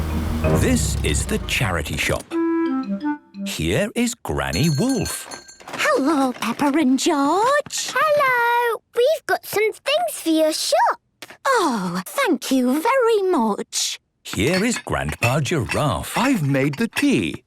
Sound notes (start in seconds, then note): 4.5 bell jingling